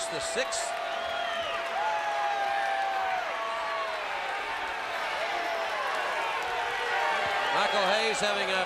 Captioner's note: crowd cheering